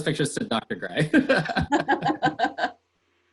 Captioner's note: laughter